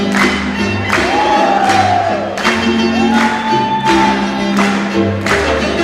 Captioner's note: clapping rhythmically; audience cheering